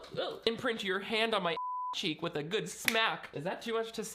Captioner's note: beep